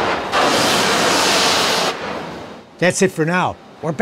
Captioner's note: steam hissing